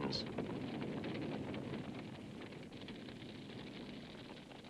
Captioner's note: fire crackling